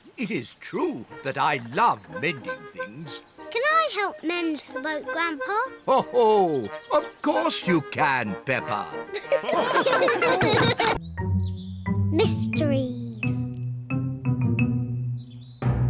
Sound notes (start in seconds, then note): 6.1 chuckles; 9.0 all laugh